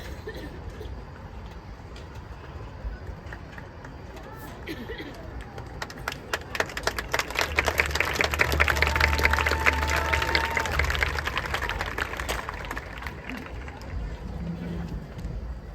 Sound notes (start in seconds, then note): 6.1 applause